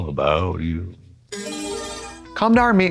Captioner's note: bright chime